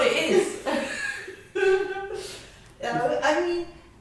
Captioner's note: more laughing